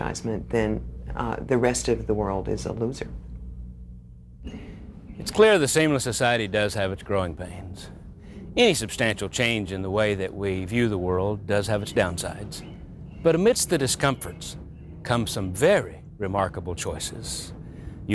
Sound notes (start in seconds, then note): none